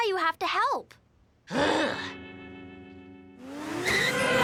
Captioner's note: Milo groans